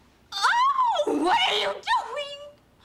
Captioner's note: screams